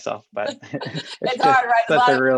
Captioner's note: laughs